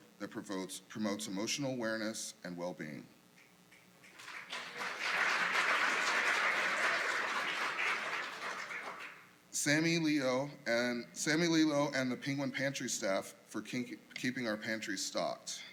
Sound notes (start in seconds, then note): 4.0 applause